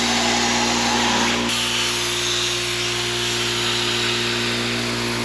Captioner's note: compressor whirring continues